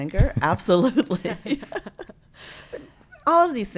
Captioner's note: laughs